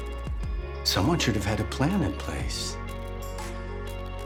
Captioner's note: voiceover